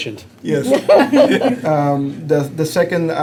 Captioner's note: laughter